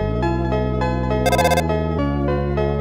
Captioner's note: ring